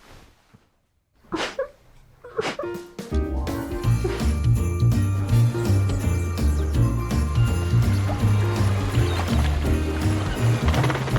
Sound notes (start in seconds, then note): 1.4 whimpering